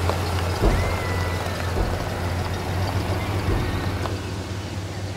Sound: thumping in trunk

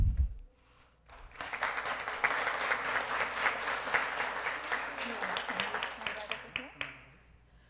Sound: applause

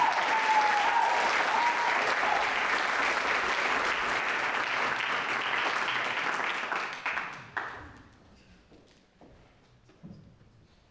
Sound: audience applauds

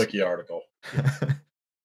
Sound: chuckles

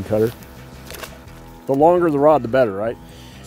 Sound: water splashes

